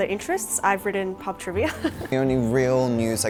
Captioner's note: laughing